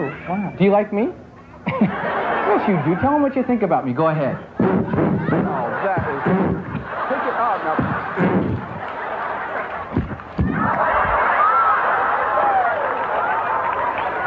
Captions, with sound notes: wow, Do you like me? Yes, you do. Tell them what you think about me go ahead. [blows air into microhone] [audience laughs] [kiss sounds] [audience laughs]